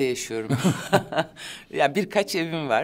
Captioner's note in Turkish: Gülüyor